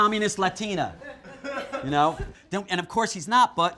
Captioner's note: participants laugh